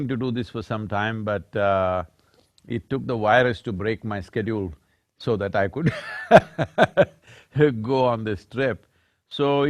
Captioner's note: laughs